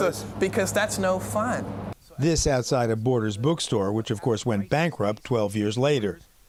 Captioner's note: voice-over